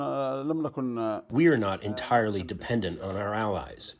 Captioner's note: through translator